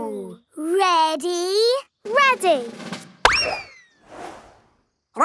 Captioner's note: bang